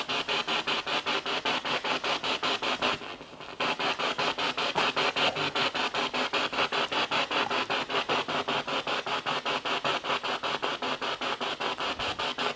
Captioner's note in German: Noise of the spiritbox in the background